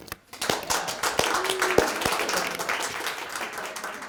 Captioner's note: applause